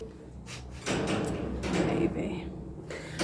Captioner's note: cage rattles